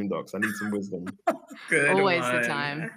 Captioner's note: laughter